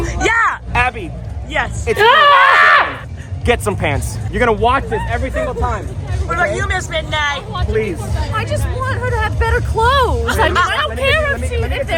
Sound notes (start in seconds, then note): 2.0 screaming